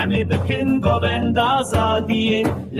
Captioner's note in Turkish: Ayakları yere vuruyor